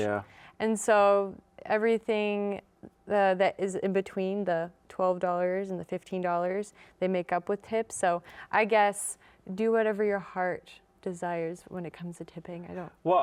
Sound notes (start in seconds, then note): none